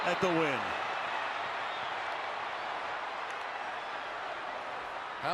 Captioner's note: cheering